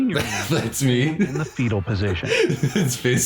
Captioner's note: laughs